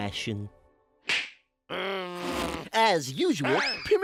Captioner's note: groans